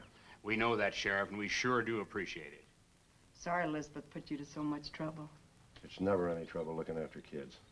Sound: none

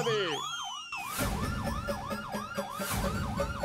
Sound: siren blaring

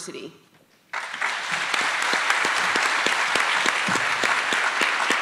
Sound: attendees applauding

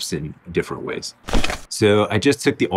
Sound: paper crumpling

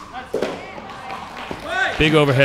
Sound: chattering

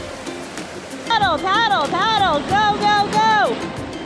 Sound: soft music; ocean sounds

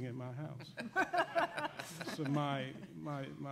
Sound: laughing

